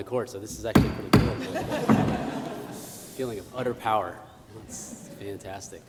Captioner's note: applause